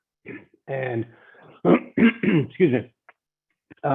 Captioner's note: clears throat